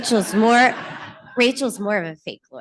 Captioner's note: laughter